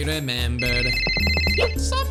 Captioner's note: phone ringing